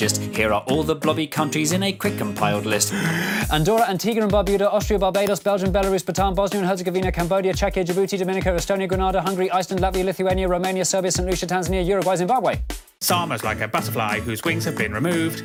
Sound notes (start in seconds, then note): 2.7 inhale